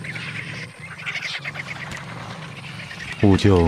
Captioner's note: vultures chattering